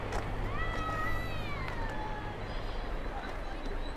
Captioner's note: scream